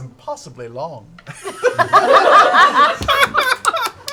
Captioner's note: laughter